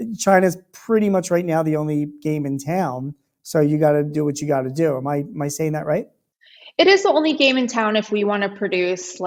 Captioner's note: none